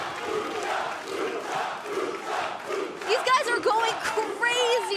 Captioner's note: fans chanting